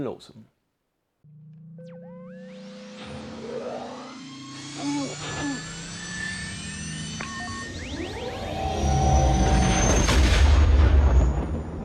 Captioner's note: Millennium Falcon engine sounds